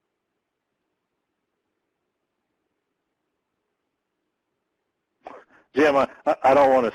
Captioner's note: laughing; laughs